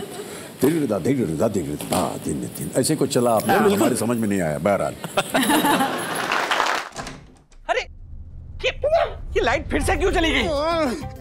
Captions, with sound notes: It was something like this. I didn't understand much though. [laughing] Hey! Why did the lights go out again?